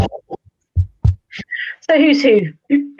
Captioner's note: audio distorts